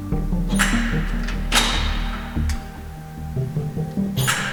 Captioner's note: machine clacks